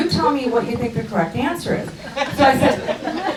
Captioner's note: crowd laughs